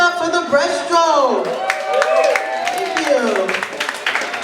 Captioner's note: cheering and applause